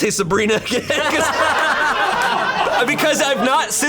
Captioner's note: and colleagues laughing